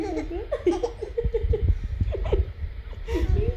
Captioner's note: giggling